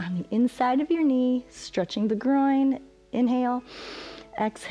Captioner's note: exhales; inhales